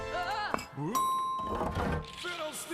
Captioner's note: bell dings